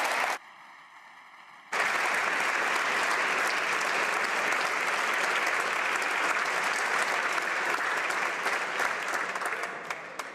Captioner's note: applause